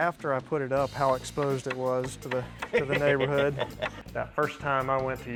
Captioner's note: laughs